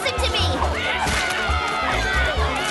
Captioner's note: splat